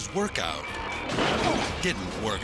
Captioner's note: cabinet thudding